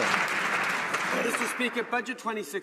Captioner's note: some Applause